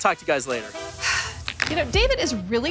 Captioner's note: exhales sharply